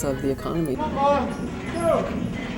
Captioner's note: voices of laborers on wharves